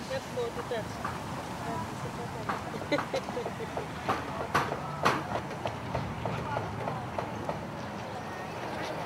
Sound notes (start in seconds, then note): 2.8 laughing; 5.5 hammering noise